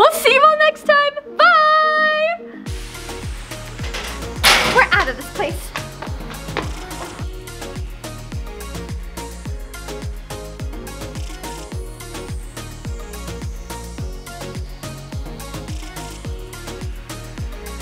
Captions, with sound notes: Well, see you all next time! Byyyye! (locker slams) We're outta this place! (upbeat electronic music)